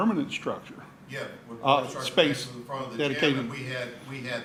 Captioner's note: speaking faintly